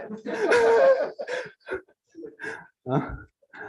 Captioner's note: laughter